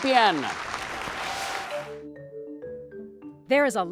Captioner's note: applause